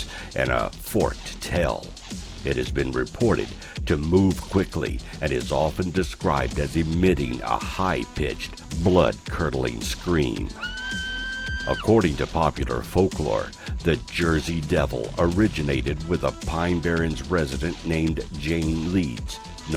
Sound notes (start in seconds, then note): 10.5 Devil emits high-pitched scream